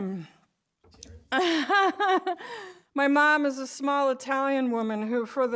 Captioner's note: laughs